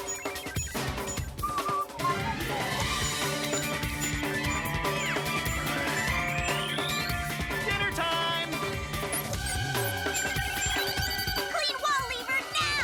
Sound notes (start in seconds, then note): 0.4 whistling; 7.9 beeping